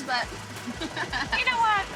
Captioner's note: laughs